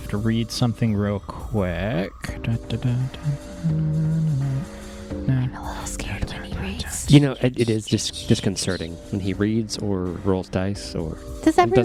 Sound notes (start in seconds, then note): 3.1 sing-songy humming as he reads